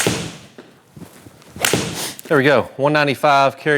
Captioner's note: ball cracking